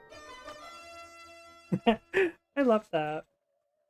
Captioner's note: laughs